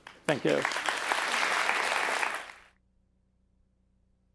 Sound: applause

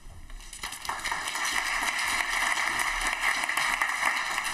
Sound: applause

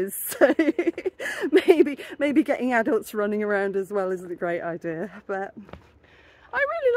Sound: laughing

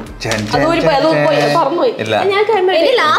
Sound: imitates music

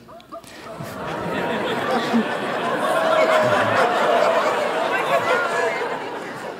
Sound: laughter

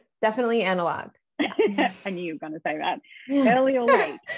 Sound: laughs; laughs

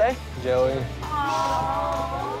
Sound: crowd moans

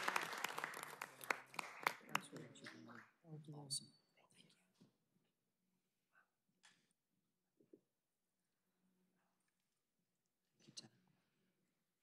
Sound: applause

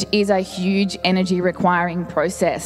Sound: none

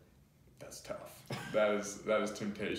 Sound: laughs

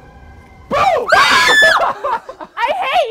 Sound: screams

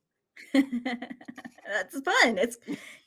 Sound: laughs

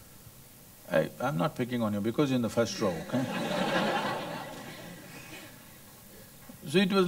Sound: laughter

